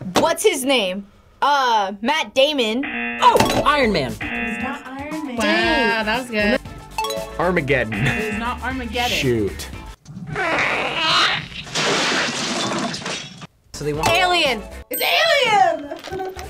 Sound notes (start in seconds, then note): 2.8 klaxon sounds; 2.9 bell dings; 7.0 bell dings; 10.6 squeaking and crashing sounds; 14.2 bell dings